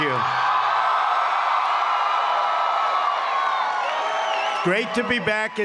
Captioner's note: applause